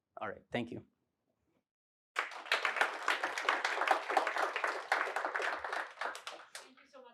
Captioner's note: applause